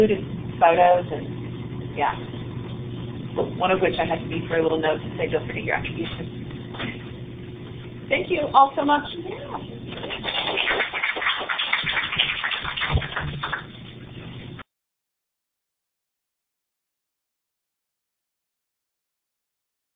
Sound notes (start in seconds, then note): 15.4 applause